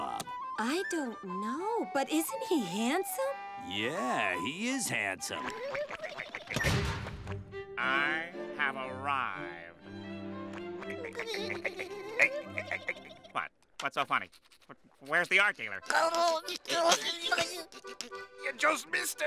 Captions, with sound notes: I don't know, but isn't he handsome? Yeah, he is handsome. [giggling] I have arrived. [giggling] What? What's so funny? Where's the art dealer? [snickering] You just missed him!